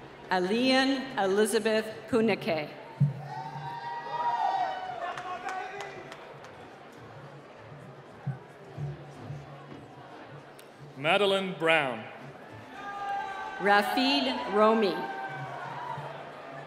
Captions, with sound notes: - Aliyan Elizabeth Kunikay. (cheering) - Madeline Brown. - Rafeed Rome.